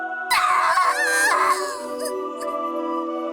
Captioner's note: pained cry